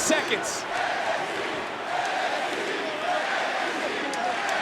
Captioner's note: crowd chants "NXT"